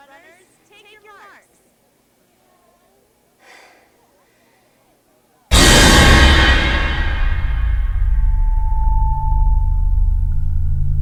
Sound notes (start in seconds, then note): 3.4 Yuen sighing; 5.5 intense music